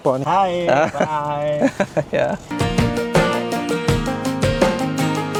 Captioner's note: laugh